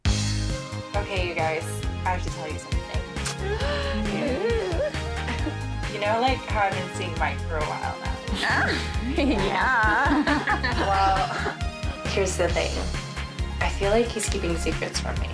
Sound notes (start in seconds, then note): 0.2 happy music; 3.3 giggles; 9.0 women giggling